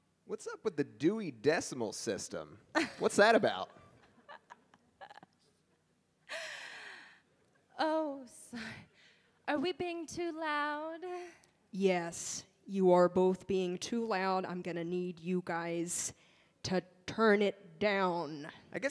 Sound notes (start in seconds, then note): 3.9 laughs